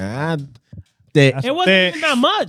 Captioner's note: speaking In Foreign Language